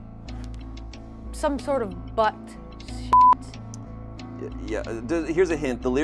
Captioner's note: beep